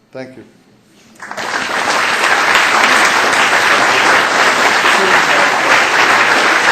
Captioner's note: applause